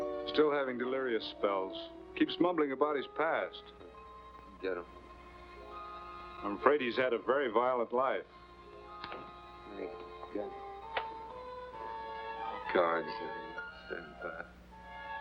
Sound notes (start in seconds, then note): 4.6 Quirt mumbles